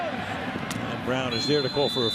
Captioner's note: shouting